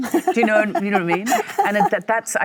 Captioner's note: Michelle laughs